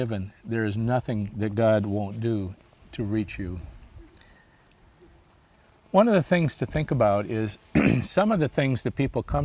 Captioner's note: clears throat